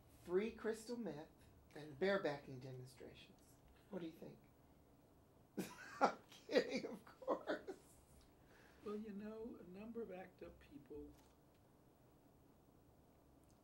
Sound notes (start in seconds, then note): 5.6 laughs